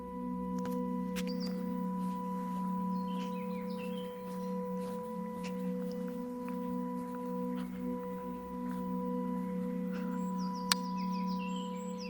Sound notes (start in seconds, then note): 1.5 birds chirping